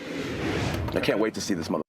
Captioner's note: logo whooshing